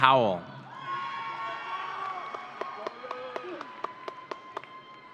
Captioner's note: audience cheering